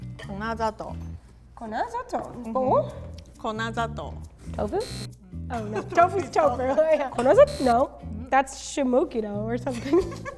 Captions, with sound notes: Bowl? Oven? (electric buzz) (both speak in foreign language) No, that's (speaks in foreign language) or something.